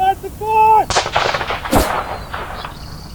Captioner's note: gunshot cracking; bullet whizzing; birds chirping